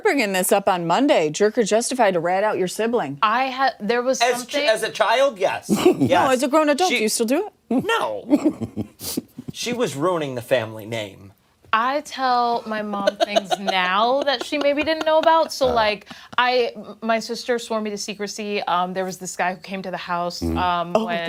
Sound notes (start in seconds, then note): 14.7 laughter